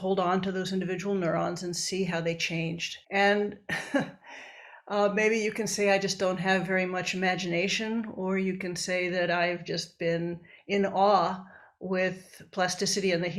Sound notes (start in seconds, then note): 3.7 chuckles